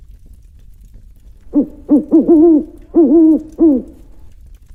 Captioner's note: owl Hooting